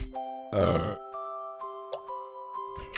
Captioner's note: Belch